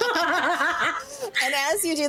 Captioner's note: laughing